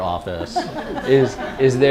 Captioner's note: laughter